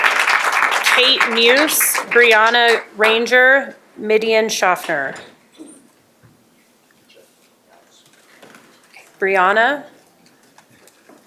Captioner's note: applause